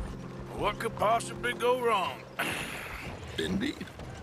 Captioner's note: grunts